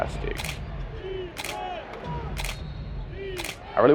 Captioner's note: crowd chanting defense